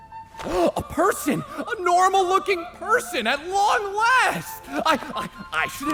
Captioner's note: gasp